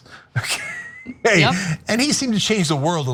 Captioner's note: laugh